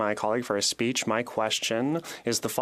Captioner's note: speaking French